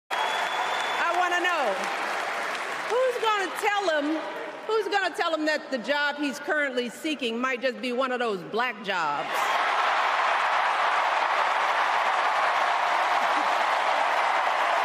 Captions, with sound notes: [ CHEERS AND APPLAUSE ] [ CHEERS AND APPLAUSE ] >> I WANT TO KNOW. I WANT TO KNOW. WHO IS GOING TO TELL HIM, WHO IS GOING TO TELL HIM THAT THE JOB HE IS CURRENTLY SPEAKING JOB HE IS CURRENTLY SPEAKING